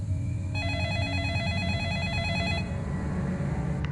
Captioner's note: telephone Rings